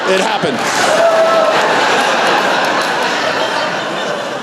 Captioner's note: laughter